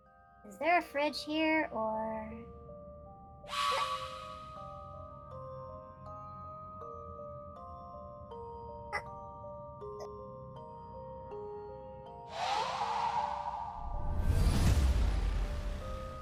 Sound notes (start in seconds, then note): 3.5 sheen SFX + surprised noises; 12.4 dramatic sound effects and stuff